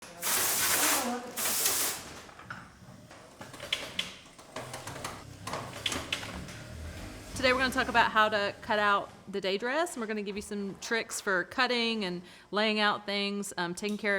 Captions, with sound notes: (iron steaming sound in the background) (sewing machine sounds in the background) Today we're gonna talk about how to cut out the Day Dress. We're gonna give you some tricks for cutting and laying out things...taking care of your fabrics.